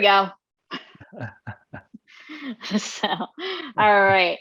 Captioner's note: laughing